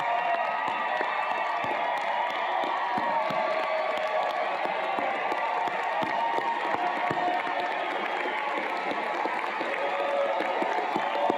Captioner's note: cheers and Applause